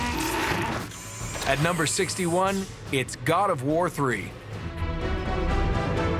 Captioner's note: roars; snarls